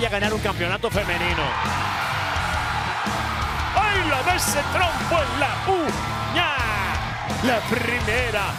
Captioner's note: applause